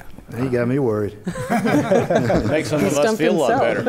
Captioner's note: laughter